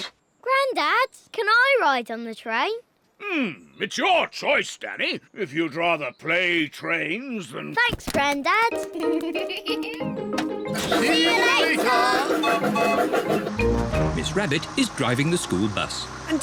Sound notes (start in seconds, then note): 8.6 laughs; 12.0 toots whistle